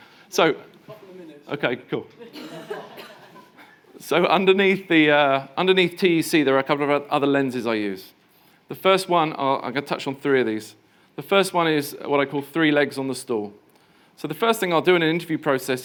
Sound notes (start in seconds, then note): 2.1 people laughing